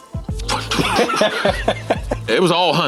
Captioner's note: laughing